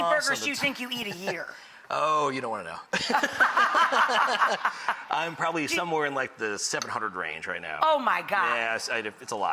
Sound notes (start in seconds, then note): 3.0 both chuckle